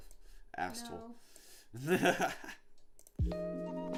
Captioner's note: laughing; upbeat music